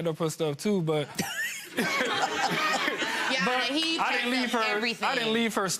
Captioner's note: laughing